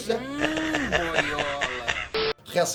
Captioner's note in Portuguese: Risada